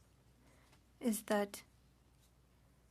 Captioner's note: speaking French